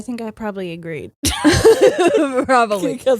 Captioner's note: both laughing